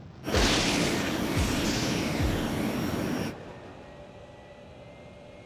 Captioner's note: thunder